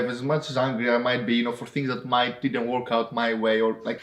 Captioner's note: none